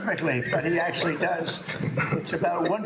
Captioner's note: laughter